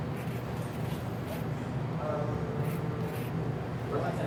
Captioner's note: grating